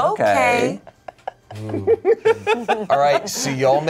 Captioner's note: laugh